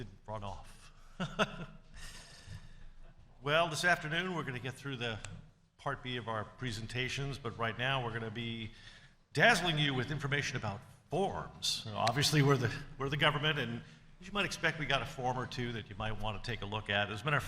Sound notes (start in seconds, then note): 1.1 laughing